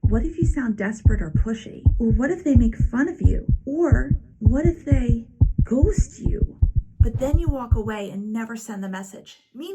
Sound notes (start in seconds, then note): 1.5 heartbeat thumping